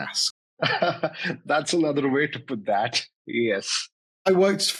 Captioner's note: chuckles